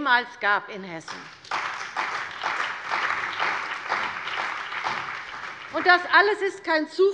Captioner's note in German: Beifall bei der CDU und dem BÜNDNIS 90/DIE GRÜNEN